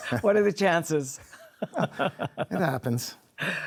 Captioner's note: chuckles